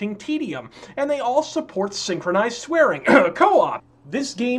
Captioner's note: ahem